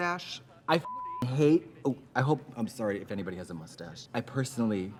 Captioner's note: beep